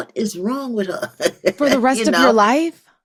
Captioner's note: laughs